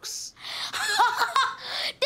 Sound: laughing

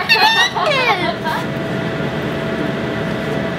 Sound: laughs

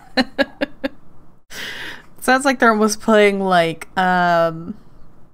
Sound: laughs

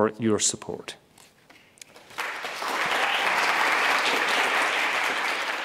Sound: audience applauding

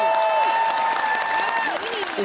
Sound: cheering and applause

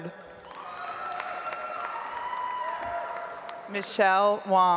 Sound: audience applauds

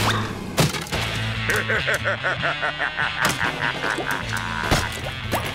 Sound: laughing

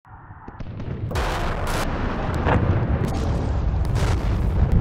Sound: bombs blasting; bombs whooshing

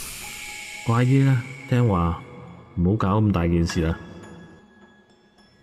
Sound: speaking foreign language

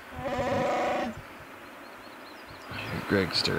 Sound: Wookie growling

